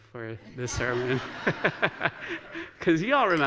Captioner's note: laughter